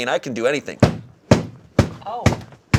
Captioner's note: tenderizing banging